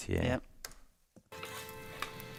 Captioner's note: key clicks; gentle music